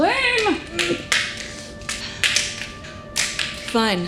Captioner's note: glasses clatter to floor